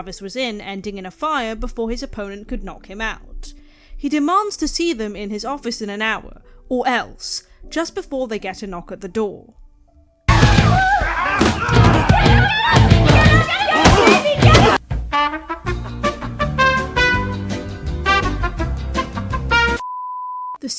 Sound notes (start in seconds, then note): 10.3 screaming